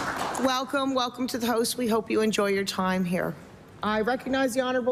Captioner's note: applause